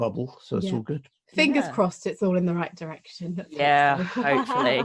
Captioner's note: laughs